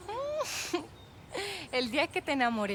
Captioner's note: laughing